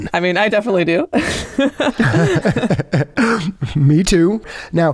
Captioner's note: laughter